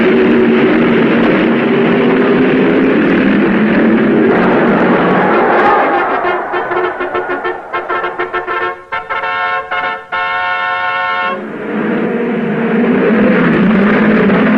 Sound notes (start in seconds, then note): 3.9 crowd cheering; 11.3 cars revving